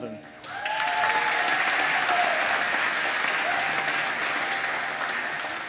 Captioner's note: applause